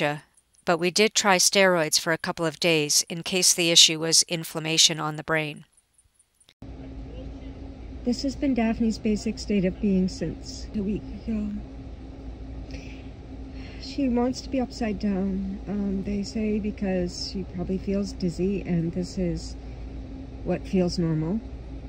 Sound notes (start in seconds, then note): 12.7 sniff